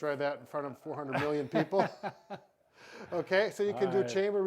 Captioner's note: laughs